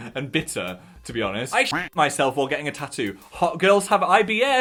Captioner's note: duck quacks